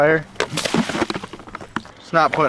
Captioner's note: water spilling